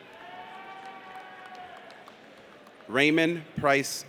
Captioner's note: audience cheers